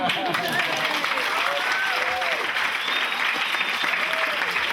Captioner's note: audience applauding